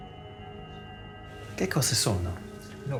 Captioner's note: speaking Italian